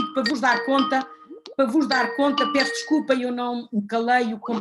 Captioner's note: computer sound